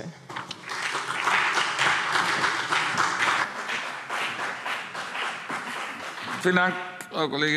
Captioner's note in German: Beifall CDU und BÜNDNIS 90/DIE GRÜNEN